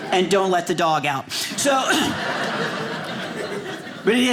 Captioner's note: audience laughing